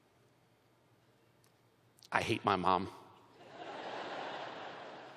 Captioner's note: laughter